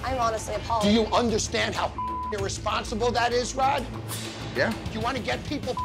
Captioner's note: beep; beep